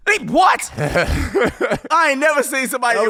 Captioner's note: laughing